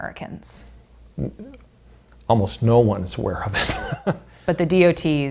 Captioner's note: laughing